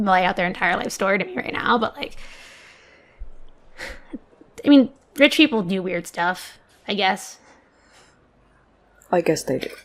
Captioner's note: sighs